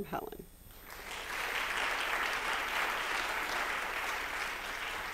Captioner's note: applause